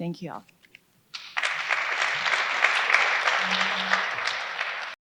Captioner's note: crowd clapping